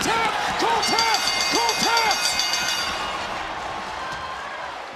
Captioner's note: bell rings; audience cheering